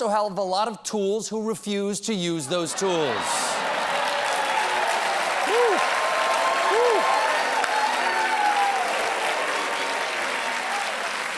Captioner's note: laughter